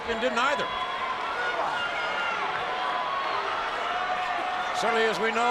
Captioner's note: audience cheering